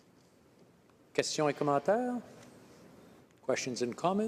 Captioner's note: speaking French